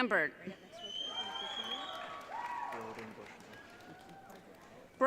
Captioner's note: audience cheering